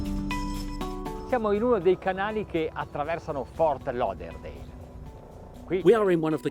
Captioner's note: speaking in foreign language